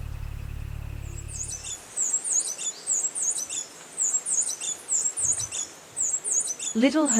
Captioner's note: birds chirping